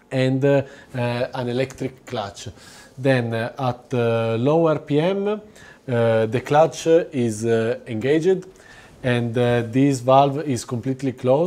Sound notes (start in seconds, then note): none